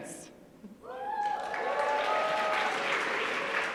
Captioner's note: cheering